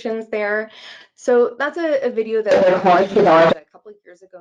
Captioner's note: audio buffering